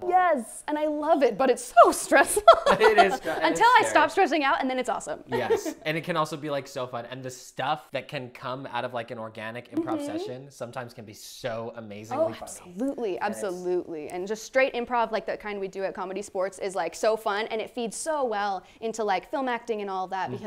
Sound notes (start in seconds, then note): 2.4 laughs; 2.4 chuckles; 5.3 laughs